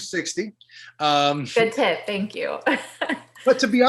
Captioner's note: laughs